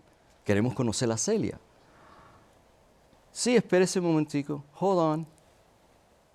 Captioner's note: speaks Spanish